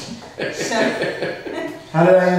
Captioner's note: laughing